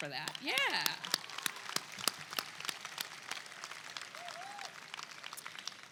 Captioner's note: attendees clap and cheer